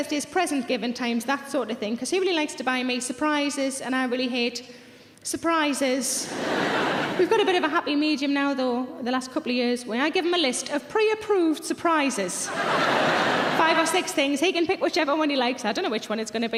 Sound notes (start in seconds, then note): 6.3 laughing; 12.5 laughing